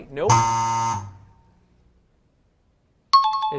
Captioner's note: buzzer; time chime